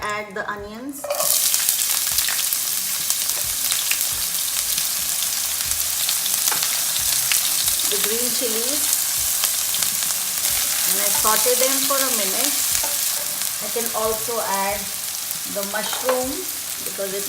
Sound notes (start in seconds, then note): 1.2 onions sizzling